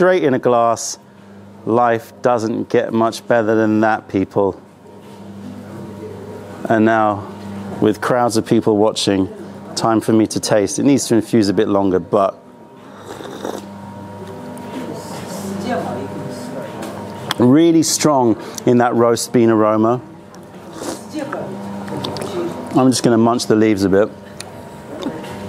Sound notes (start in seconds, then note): 16.0 sips tea